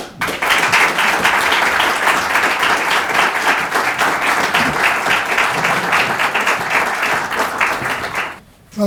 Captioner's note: applause